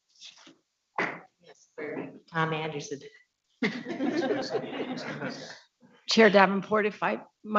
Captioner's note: audience laughing